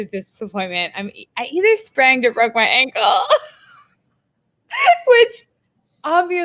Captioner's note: laughs